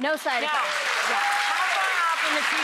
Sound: clapping

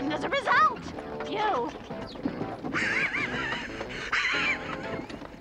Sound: laughing

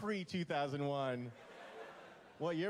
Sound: laughter

